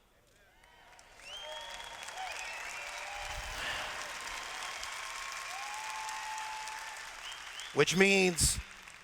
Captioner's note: cheers